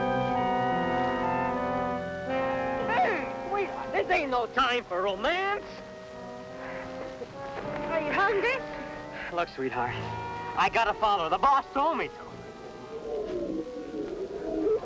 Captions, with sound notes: Mm! Wait. This ain't no time for romance. Are you hungry? Look, sweetheart, I gotta follow her. The boss told me to. [animal noises]